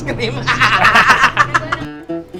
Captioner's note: laughs